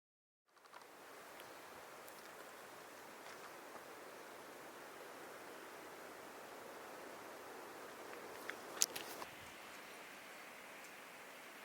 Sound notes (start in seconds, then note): 1.0 birds chirping; 1.2 wind blowing